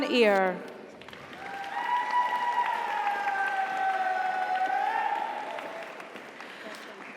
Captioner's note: audience applauds; audience cheers